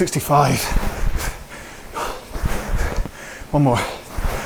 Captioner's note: breathing heavily